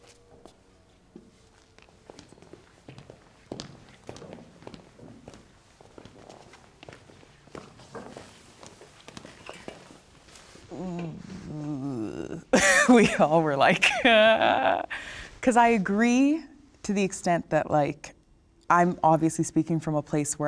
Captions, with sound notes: (footsteps tapping) - (groans) We all were like, "Uh..." 'Cause I agree to the extent that like, I'm obviously speaking from a place